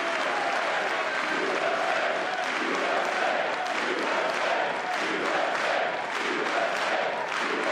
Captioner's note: applause